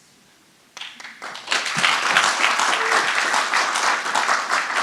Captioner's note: audience applauding